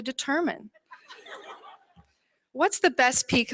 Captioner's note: laughter